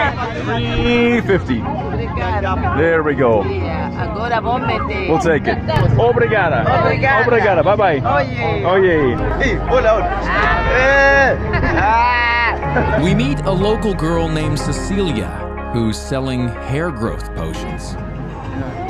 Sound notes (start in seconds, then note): 4.0 woman speaks in foreign language; 6.5 speaking in foreign language; 11.5 villager grunts